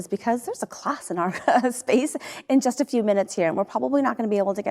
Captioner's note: chuckles